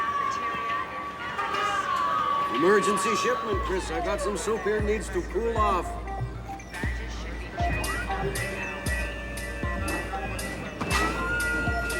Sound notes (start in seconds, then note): none